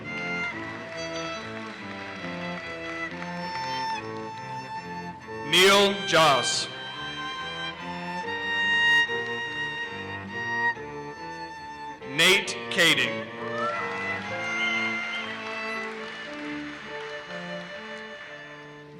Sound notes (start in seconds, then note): 0.4 audience applauses; 5.5 audience cheers and applauses; 13.3 audience cheers and applauses